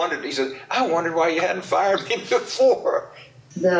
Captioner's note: laughs